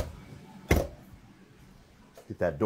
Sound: door creaks

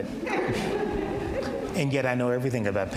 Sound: audience laughs

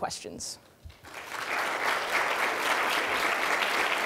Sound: applause

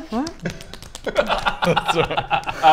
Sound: face slapping

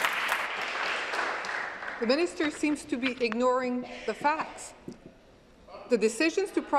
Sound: applause

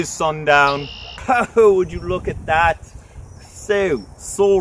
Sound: chuckles

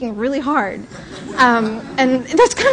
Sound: laughter

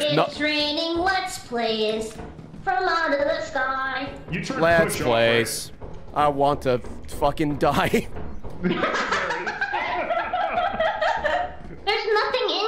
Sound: laughs

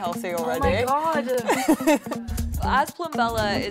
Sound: laughs

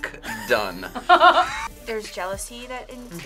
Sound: laughs

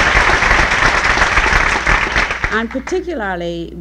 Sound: applause

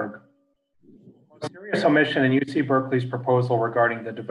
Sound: faintly speaking

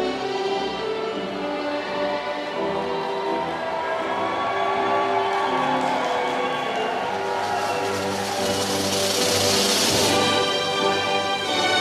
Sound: applause

